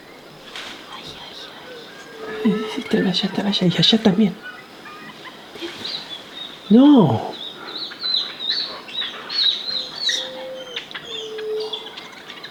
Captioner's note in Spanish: Monos eufóricos